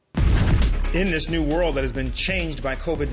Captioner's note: voice-over